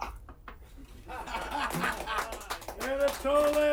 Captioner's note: laughter and applause